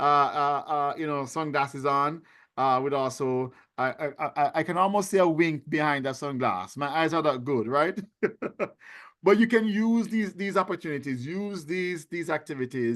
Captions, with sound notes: you know, sunglasses on with also, I can almost see a wink behind that sunglass. My eyes aren't that good, right? (laughing) But you can use these opportunities, use these activities